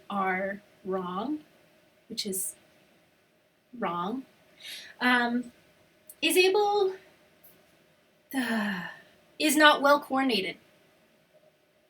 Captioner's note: frustrated sigh